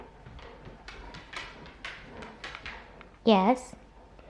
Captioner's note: dog steps sounding